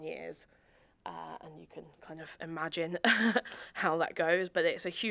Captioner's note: chuckles